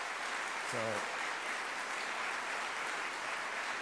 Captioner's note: applause